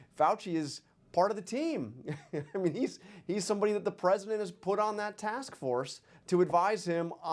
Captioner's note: laughs